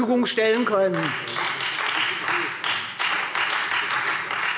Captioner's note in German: Beifall Freie Demokraten